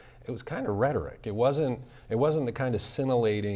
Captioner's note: none